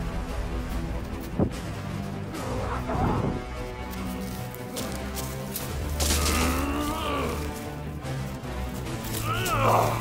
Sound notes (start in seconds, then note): 2.1 Bondage Yelling "MMMAH HAAA!!!"